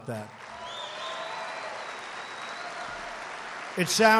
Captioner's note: applause